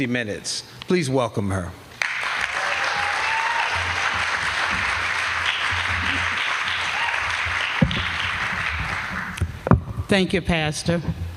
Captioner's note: applause